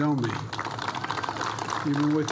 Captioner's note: applause